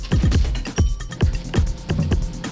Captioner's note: bell rings